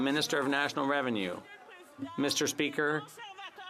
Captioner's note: some Applause